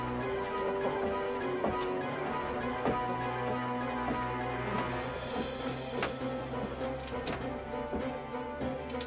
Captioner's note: footsteps ascending upstairs